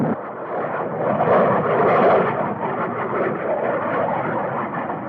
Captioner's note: engines roaring